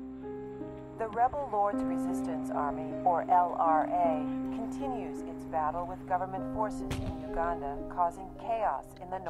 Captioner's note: radio newscast